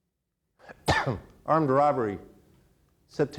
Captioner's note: coughs